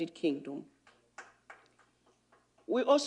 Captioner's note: applause